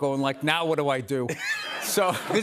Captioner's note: laughter